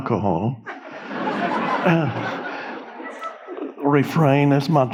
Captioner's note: audience laughing